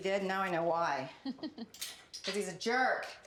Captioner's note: Candace laughs